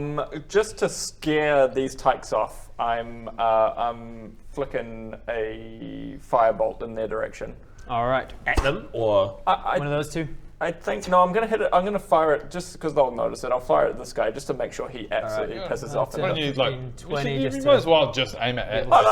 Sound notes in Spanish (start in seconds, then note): none